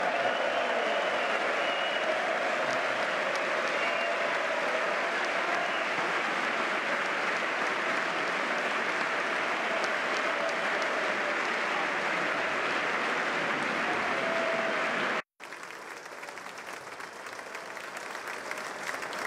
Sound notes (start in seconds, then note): 0.7 applause; 7.6 cheers